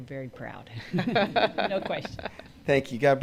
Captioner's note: all laugh